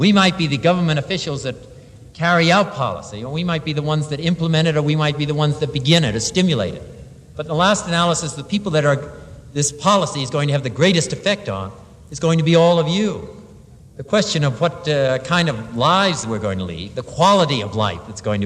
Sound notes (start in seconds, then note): none